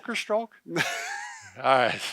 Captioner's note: both laugh